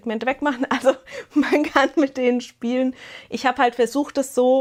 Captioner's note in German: Gelächter